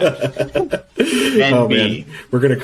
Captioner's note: laughs